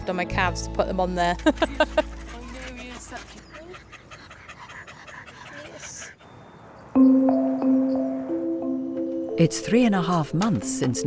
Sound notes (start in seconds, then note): 1.3 laughs; 3.4 Loki panting